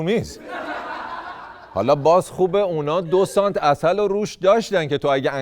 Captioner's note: laughter